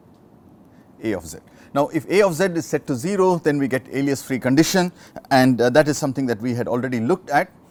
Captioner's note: distortion